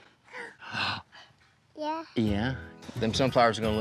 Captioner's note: gasp